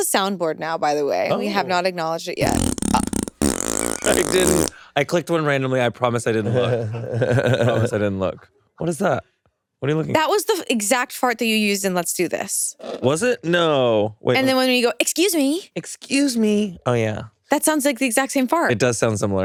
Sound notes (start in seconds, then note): 2.4 sound board farts